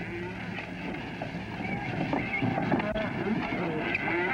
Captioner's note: mooing